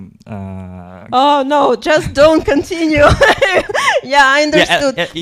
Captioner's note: laughs